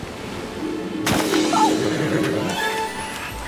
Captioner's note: otter splashes; horse neighs; giddy music